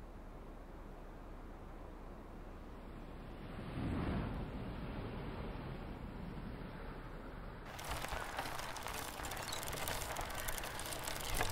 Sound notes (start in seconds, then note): 3.5 wind gushes; 7.7 bike wheels squeak